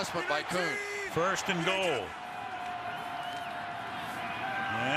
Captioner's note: pa announcement